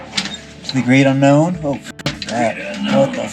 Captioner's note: metal clanking; beep